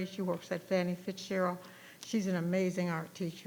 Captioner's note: none